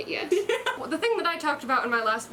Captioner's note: laughter